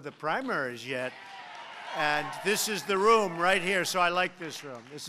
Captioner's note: applause